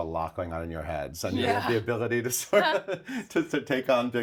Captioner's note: laughs